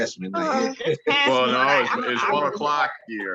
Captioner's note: laughs